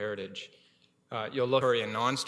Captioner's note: audio drop